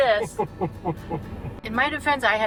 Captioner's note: laughs